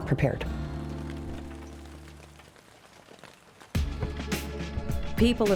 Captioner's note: rain falling